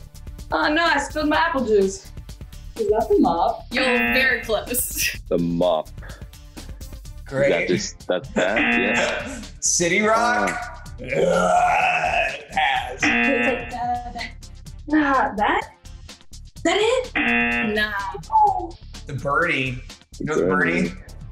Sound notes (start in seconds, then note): 4.9 buzzer; 8.5 buzzer; 13.0 hums; 13.0 buzzer; 17.1 buzzer